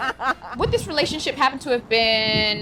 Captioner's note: laughter